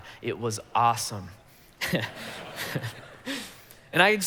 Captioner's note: congregation laughing